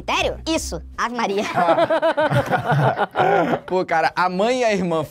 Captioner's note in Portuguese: risadas